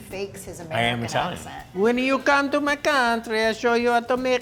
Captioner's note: with italian accent